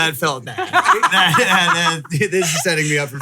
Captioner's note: laughing